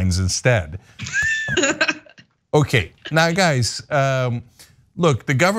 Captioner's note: laugh